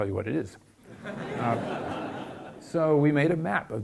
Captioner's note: audience laughs